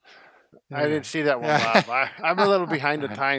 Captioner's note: laughing